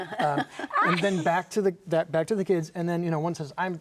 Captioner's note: both laughing